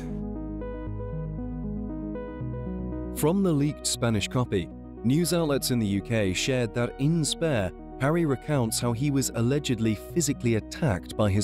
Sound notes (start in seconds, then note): 0.1 gentle music; 3.2 voiceover